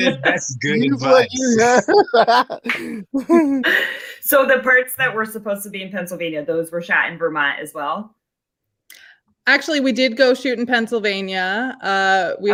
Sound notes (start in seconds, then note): 2.0 laughing